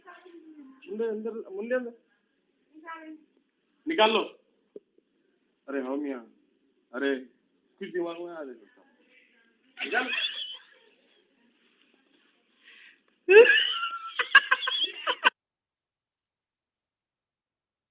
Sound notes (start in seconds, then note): 13.3 people laughing